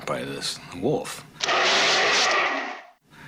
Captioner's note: growling